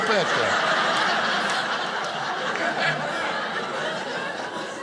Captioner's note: audience laughing